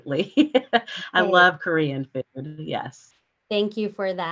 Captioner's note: chuckles